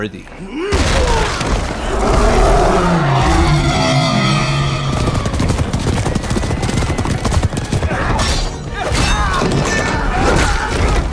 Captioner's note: epic SFX Montage